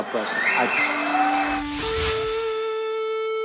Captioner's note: cheering; rock music